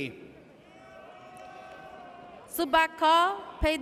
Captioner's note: audience cheers